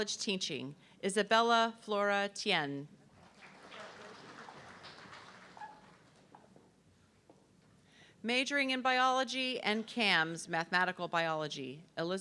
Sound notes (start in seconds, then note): 3.2 audience clapping